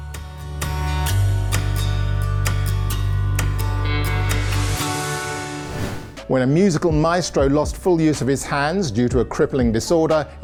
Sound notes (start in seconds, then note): 0.3 inspiring music; 4.4 air whooshing